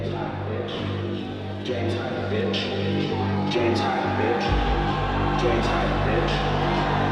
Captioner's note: crowd cheers